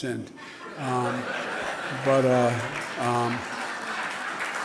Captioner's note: laughing